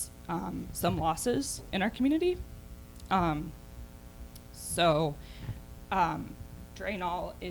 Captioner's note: none